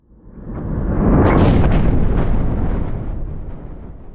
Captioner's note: thunder crashing